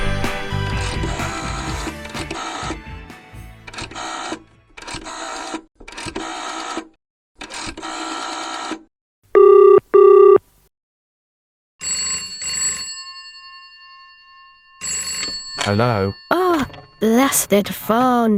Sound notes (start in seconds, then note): 0.2 old fashioned phone dialling; 9.3 old fashioned phone ringing